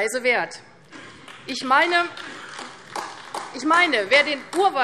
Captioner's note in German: Beifall AfD